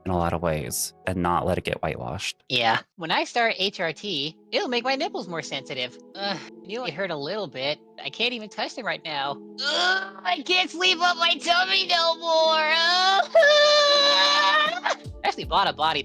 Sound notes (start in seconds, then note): 13.3 yelling